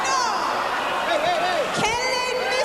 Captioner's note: voiceover